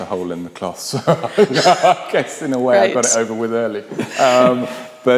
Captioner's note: laughs